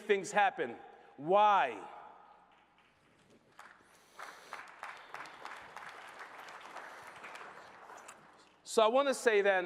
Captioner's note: applause